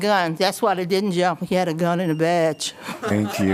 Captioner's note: laughter